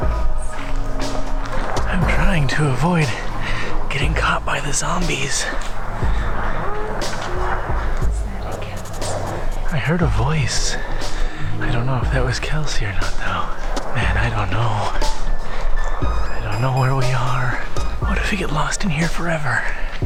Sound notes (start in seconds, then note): 0.5 quietly in a sing-song tone; 2.7 whispering; 6.0 quietly in a sing-song tone; 8.3 whispering